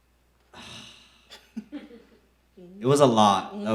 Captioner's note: sighs